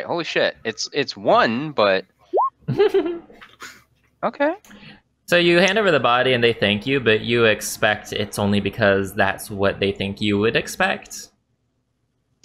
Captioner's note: laugh